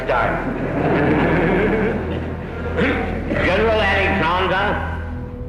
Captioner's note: audience chuckling